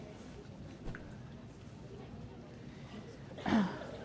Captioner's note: group chattering